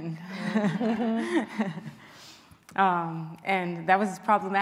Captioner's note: laughing